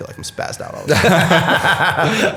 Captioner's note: laughter